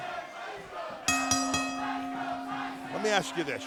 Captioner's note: crowd cheering; bell ringing